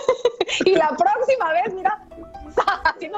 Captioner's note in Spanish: risas